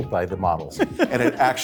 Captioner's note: laughs